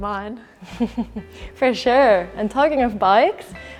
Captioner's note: laughs